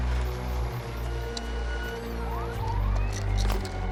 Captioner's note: soft beeping; whirring